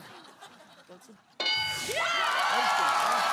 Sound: bell dings; cheering/applause

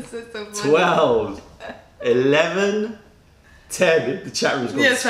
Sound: laughter

